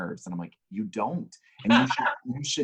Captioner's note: laughs